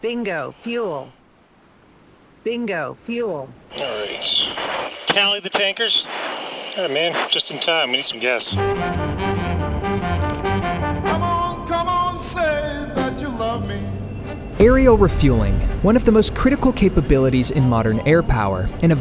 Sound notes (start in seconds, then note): 8.6 energetic music; 10.0 lever whirring; 10.1 lively music